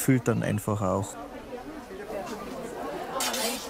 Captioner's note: babble of voices